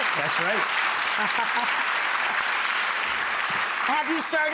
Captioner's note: audience clapping